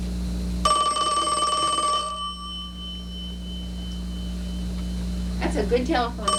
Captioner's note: phone Ringing